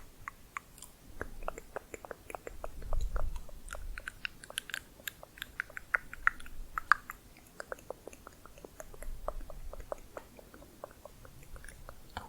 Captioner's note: layered tongue clicking